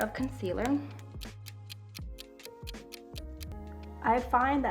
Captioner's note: clock ticks